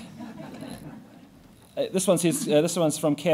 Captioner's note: laughing